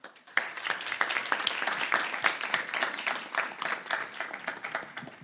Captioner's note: audience applauding